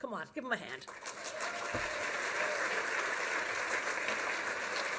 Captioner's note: applause